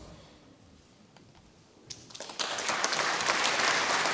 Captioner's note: audience applauding